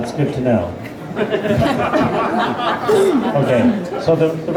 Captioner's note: laughter